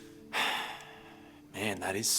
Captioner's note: sighs